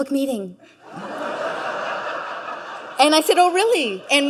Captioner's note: audience laughing